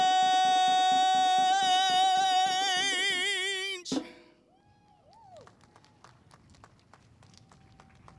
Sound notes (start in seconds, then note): 4.5 cheers; 5.0 clapping